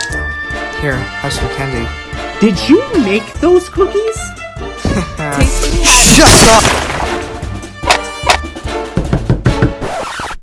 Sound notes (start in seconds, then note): 5.1 embarassed laugh; 8.9 Knocking on Jaden's door